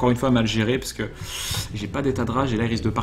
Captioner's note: deep breath